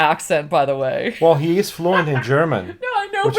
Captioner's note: laughs